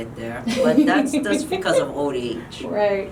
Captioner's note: giggling